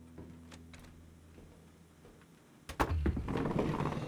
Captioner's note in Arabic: طقطقة الباب